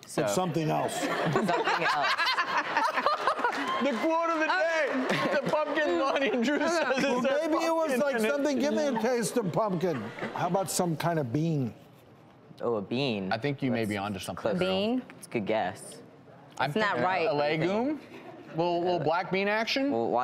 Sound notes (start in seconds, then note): 2.3 all laughing